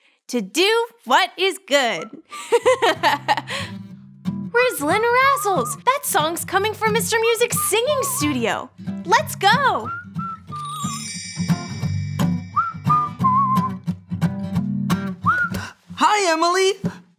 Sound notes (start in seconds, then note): 2.1 laughing; 2.6 whistling; 9.8 whistling